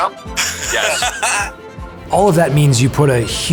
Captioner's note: guys laughing